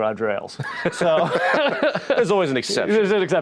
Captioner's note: both laughing